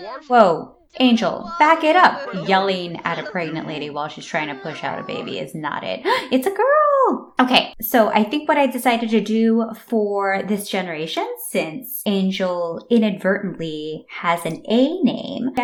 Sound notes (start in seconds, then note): 0.0 Angel speaks sternly while Penny cries in labor pains; 6.0 gasp